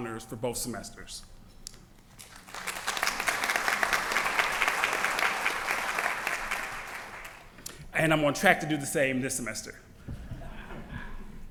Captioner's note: applause